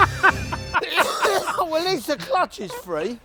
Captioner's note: coughs